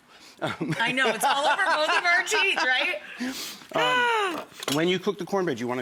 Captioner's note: laughing; sighing